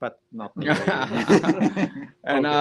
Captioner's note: laughing